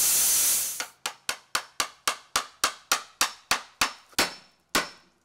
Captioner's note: hammer tapping